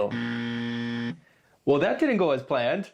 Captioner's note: buzzer ringing